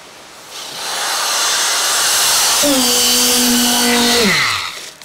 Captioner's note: machine revving